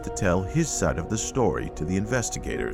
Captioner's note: patrons faintly speaking